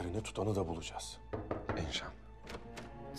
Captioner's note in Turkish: Kapı vurulma sesi; Kapı açılma sesi